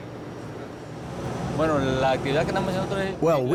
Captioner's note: speaking Spanish